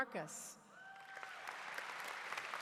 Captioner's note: applause